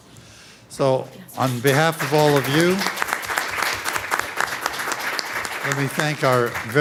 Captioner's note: applause